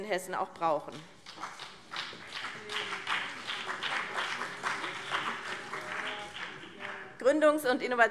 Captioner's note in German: Beifall BÜNDNIS 90/DIE GRÜNEN und CDU